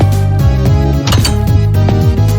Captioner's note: footsteps; door closes, used the open door sound effect lol; footsteps